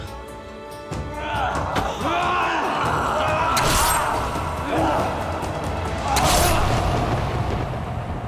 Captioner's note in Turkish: Dövüş sesleri